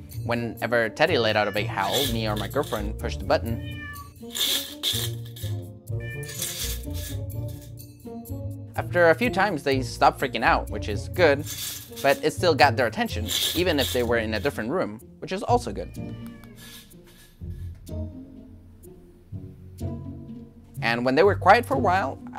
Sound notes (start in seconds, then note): 3.4 cat meows; 4.2 can shakes; 5.9 cat meows; 6.2 can shakes; 13.2 can shakes; 17.1 can shakes; 17.1 cat meows